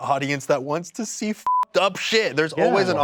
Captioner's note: beep